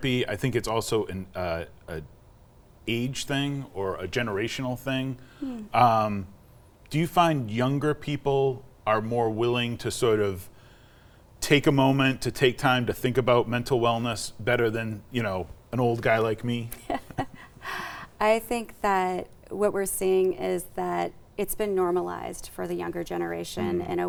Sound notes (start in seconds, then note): 16.7 laughs